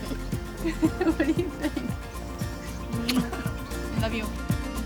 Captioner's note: laughs